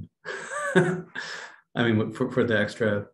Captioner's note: laughs